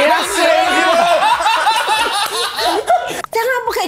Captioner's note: laughs